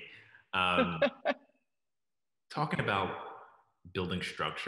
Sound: laughs

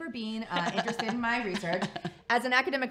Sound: laughs

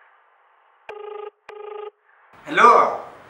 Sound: phone Ringing

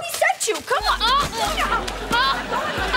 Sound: arguing

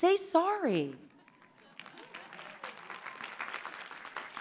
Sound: laughter and applause

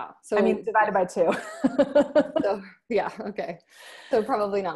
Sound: laughs

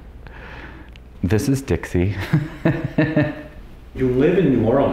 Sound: laughs

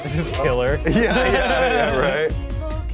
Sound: both laugh

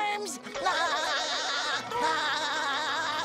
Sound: giggling

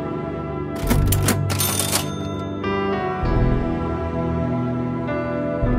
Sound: cash register bell rings

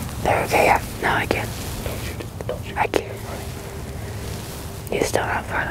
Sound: whispering

